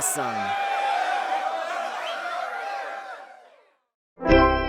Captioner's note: crowd cheering; cheerful organ music